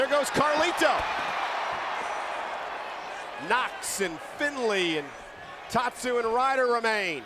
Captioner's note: applause